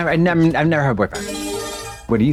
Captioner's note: bright chime